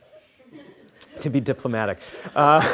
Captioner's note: scattered laughing